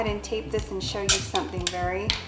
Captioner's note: snapping and clattering